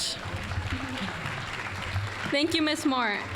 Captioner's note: applause